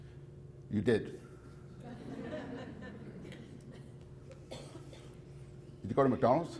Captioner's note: audience laughs